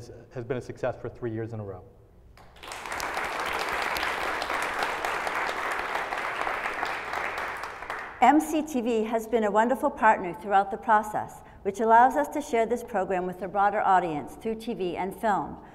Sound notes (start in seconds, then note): 2.4 applause